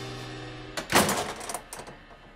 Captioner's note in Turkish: Kapı kapanma sesi